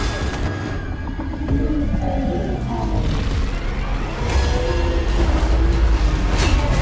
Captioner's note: inhuman roaring